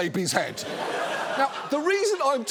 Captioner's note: audience laughs